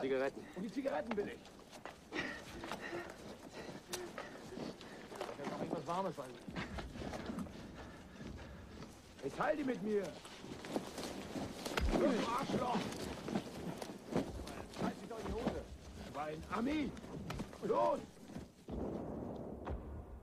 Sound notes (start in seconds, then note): 2.0 panting; 4.8 men speaking in german; 18.6 distant artillery booming